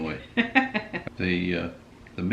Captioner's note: laughing